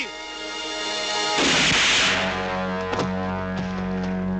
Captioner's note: gun fires